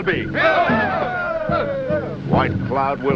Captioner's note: cheering